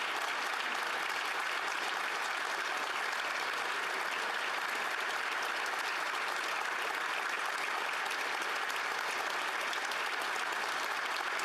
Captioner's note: applause